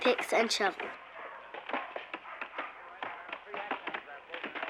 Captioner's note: chopping